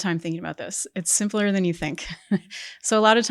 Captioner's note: chuckles